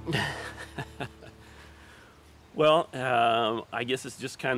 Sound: laughing

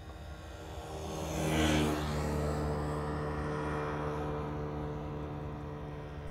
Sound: small, pathetic engine driveby. something like a scooter

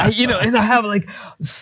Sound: laughing

